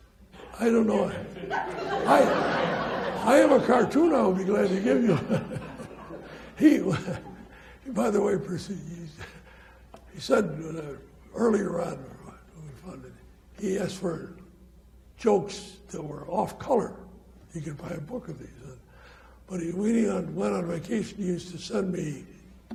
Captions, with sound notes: I don't know. (audience laughing) I have a cartoon I will be glad to give you. (laughs) By the way, he said earlier on, he asked for jokes that were off-color. You can buy a book of these. But when he went on vacation, he used to send me